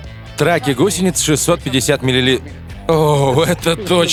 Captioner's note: laughter